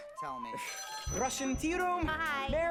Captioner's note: phone rings